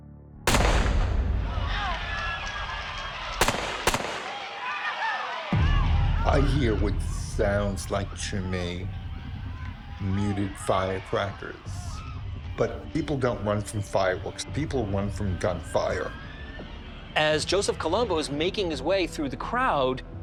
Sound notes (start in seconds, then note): 0.4 gunshot; 1.5 screaming; 3.1 gunshots